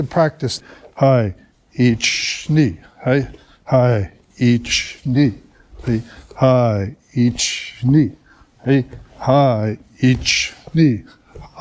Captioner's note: counting in Japanese